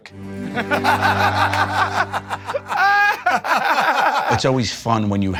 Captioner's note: Murr and Q laughing